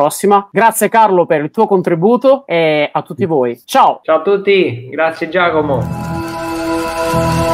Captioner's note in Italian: Applauso